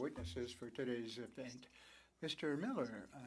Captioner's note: speaking French